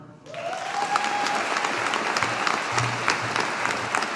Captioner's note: audience applauding